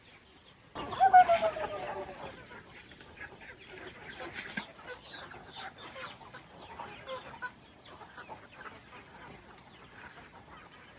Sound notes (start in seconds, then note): 0.6 cluck cluck cluck cluck cluck